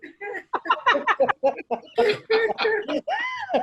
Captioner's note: both laughing